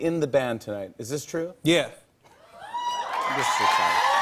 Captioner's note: cheers and applause